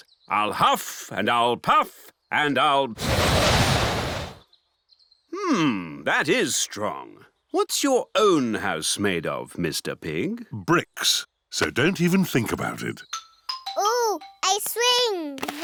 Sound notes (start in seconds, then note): 3.0 blows